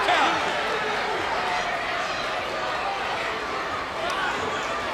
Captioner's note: crowd cheering